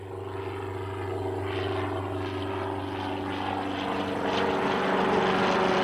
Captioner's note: airplane buzzing overhead